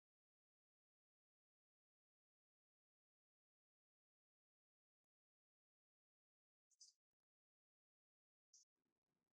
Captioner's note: silence